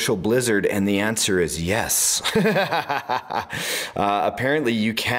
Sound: laughs

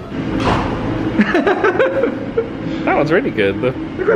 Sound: laughs

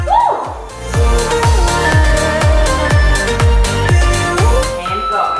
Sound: alarm beeping

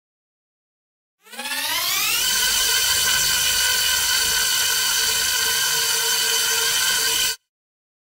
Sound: sound of engine

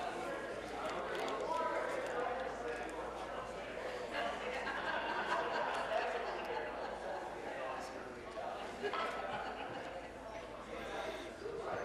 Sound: conversation din

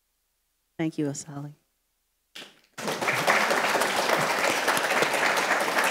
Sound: audience applauds

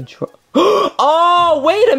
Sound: Luigi gasping

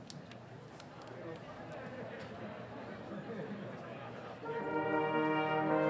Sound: people chattering

